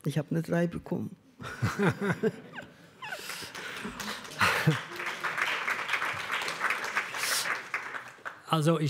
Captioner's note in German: Lachen, Applaus